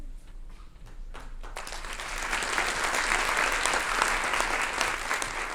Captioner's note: applause